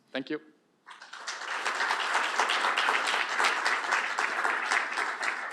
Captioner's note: applause